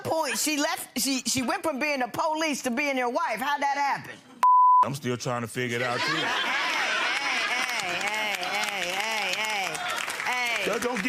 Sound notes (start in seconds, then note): 4.4 beeps; 5.9 laughing